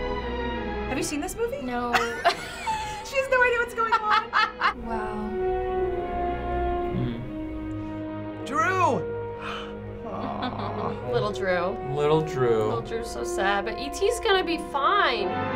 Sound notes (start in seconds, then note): 3.7 laughs; 9.3 gasps; 10.0 chuckles